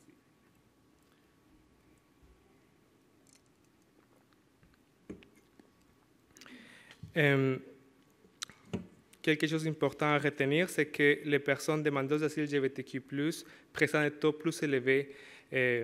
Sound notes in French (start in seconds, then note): 1.2 silence